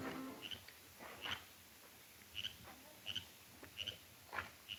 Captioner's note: frogs croaking